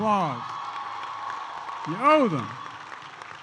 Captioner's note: applause